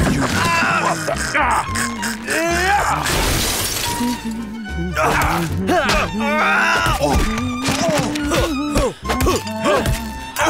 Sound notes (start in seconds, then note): 3.0 glass shattering